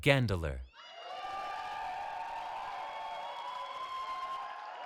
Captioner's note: cheering